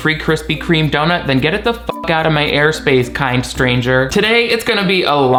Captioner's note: beep